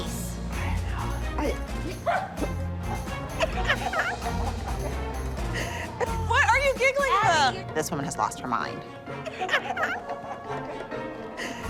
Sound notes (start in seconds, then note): 3.5 Abby Lee laughs; 9.2 Abby continues laughing